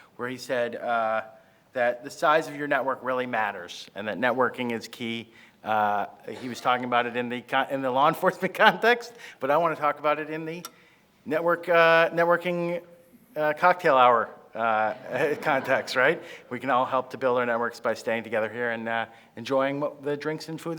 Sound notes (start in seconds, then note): 14.7 laughs; 14.8 crowd laughing